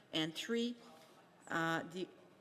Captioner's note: speaking French